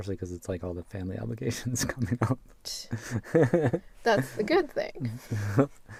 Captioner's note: scoffs; in a happy voice